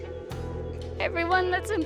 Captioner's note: tearfully